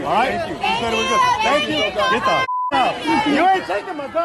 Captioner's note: beep